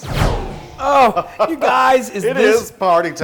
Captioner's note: laugh